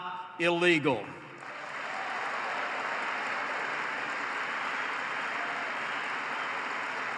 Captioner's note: applause